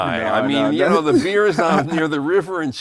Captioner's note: murmuring